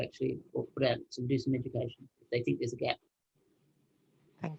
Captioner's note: speaking faintly